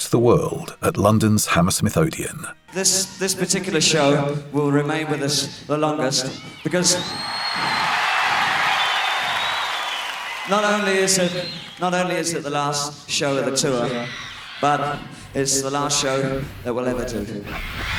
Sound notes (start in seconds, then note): 6.3 crowd cheers